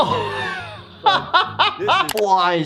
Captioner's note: laughing